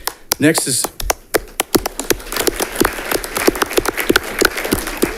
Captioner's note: audience clapping